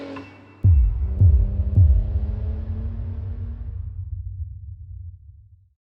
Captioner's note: engine revving; pulsating music